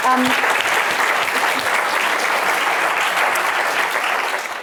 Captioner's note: audience applauding